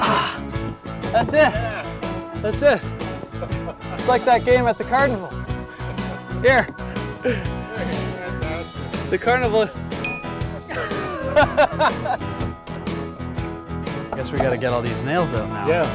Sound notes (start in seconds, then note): 10.6 laughing